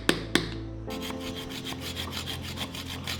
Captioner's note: scraping